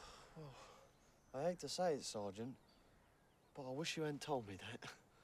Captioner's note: sighs